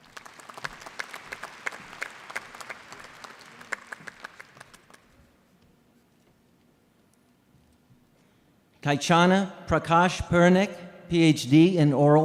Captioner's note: applause